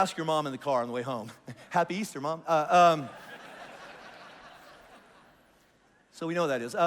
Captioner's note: congregation laughs